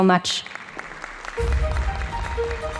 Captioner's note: audience applauding